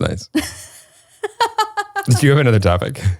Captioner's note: laughs